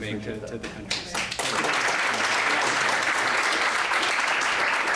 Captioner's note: applause